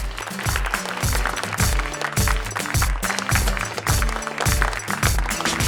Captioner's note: applause